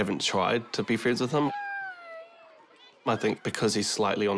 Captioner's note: squeals